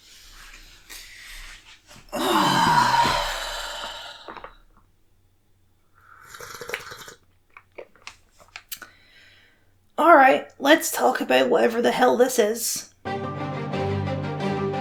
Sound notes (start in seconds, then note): 2.0 deep sigh; 6.0 obnoxiously loud coffee sip; 13.0 trailer music